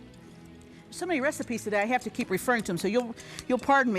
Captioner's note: whisking